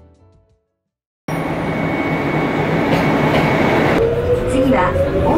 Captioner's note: train noise